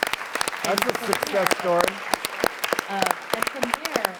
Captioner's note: applause